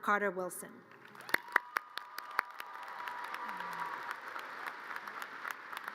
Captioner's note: audience cheers and applause